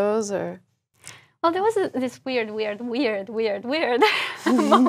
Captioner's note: laugh